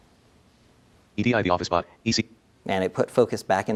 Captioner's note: narrator reading